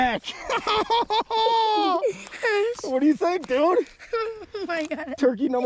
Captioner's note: laughs